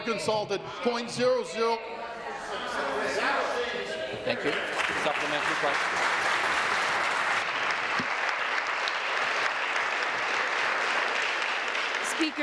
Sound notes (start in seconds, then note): 8.1 voice trails; 10.9 applause